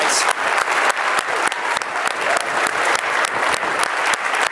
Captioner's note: applause